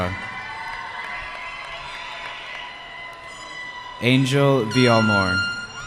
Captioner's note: cheering